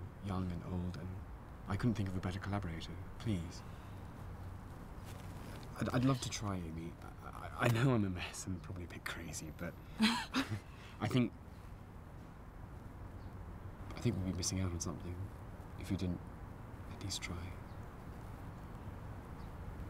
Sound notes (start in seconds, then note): 10.0 both chuckle